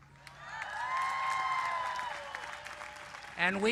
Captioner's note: cheers and applause